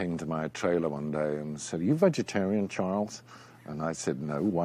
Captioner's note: in american accent